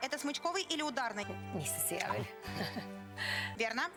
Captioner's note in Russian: смех